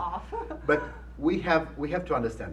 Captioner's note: laughs